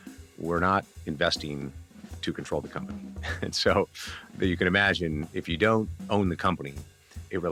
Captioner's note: laughs